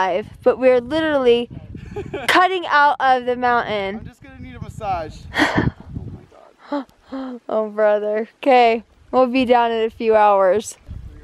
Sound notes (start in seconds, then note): 5.3 laughing quietly